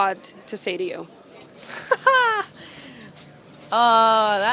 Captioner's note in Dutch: Gelach